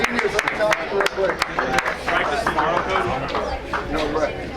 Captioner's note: crowd applauds